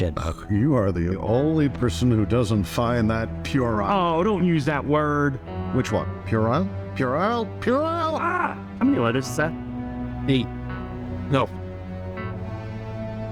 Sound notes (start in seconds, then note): 7.6 exasperated screaming